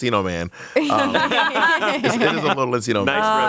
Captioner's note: everyone laughs